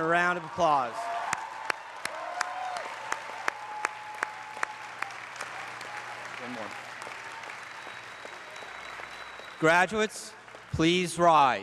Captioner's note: applause